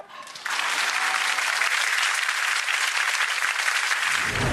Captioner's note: audience claps